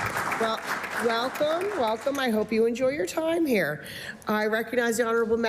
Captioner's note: applause